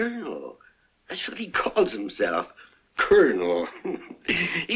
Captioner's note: chuckles